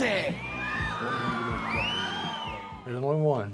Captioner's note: crowd cheers; inquisitive orchestra music